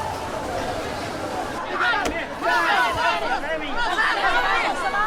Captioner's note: people chattering